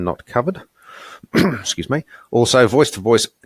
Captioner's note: coughs